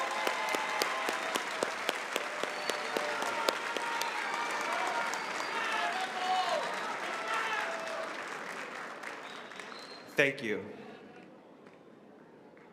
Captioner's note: applause